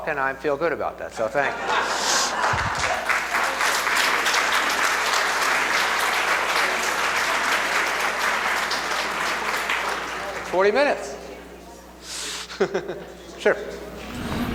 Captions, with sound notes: and I feel good about that. So thanks. (applause) 40 minutes, sure.